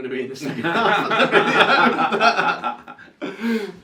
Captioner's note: laughs